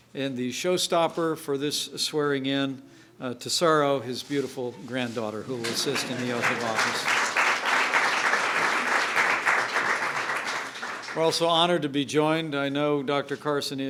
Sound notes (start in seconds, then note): 8.1 applause